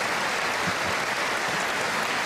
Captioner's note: applause